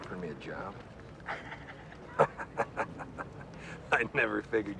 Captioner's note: chuckles